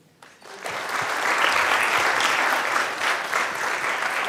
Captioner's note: audience applauds